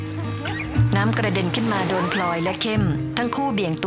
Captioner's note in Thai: เสียงน้ำ